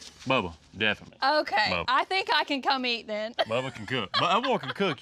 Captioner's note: laughs